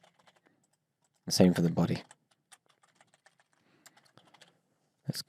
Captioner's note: keyboard clicks